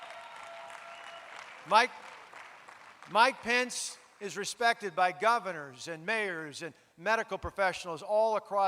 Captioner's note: applause